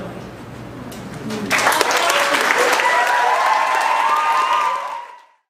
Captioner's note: audience applauding; audience cheering